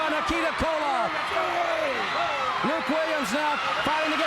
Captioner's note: crowd cheering